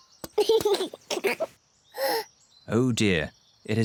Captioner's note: giggles and gasps